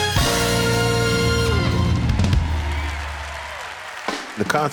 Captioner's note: cheering